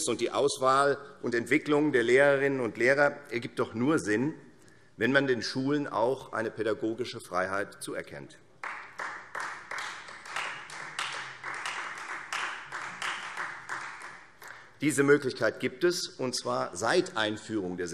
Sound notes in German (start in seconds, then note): 8.6 Beifall Freie Demokraten